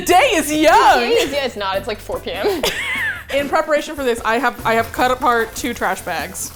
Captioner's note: both laugh